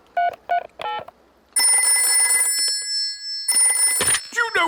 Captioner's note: dialing; rings